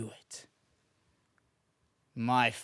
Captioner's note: silence